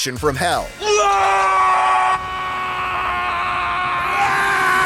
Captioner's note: screaming